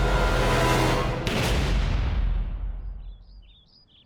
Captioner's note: gunshot